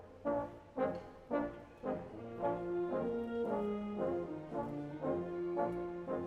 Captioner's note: none